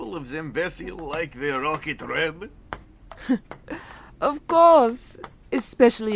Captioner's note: chuckle